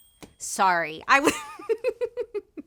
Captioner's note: laughs